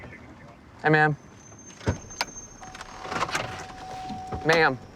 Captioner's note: car door dinging